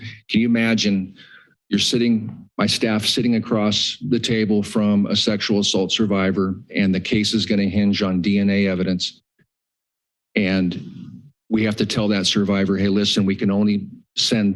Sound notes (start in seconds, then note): 9.2 pause